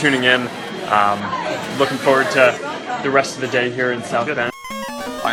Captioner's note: robot noises